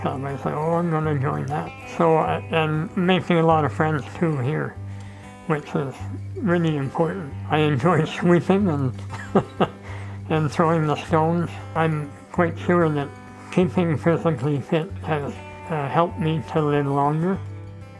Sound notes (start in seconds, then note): 9.3 chuckling